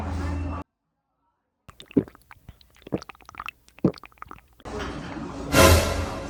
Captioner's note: sound of drinking coffee